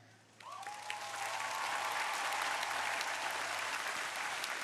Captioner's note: crowd applauding